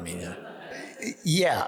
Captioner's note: audience laughs